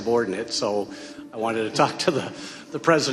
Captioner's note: chuckling